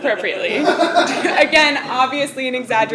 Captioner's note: laugh